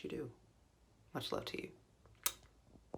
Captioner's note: smooch